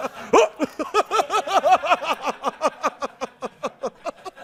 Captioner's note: laughter